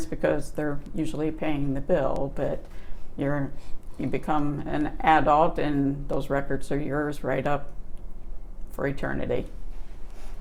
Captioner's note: buzzing in background